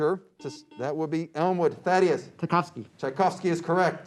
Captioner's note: beep